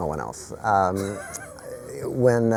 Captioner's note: laughter